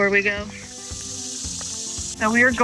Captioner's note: bugs chirping